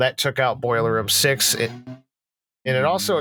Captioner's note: fast car in background